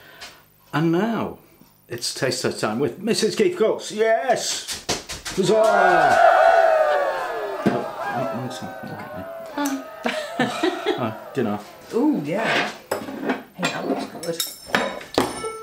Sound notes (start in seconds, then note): 5.3 cheering